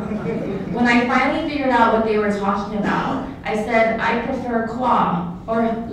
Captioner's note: laughter